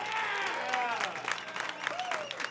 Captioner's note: crowd cheering